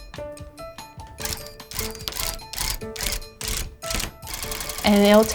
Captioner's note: tufting gun whirring